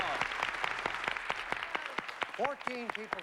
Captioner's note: applause